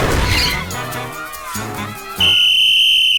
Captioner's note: piercing whistle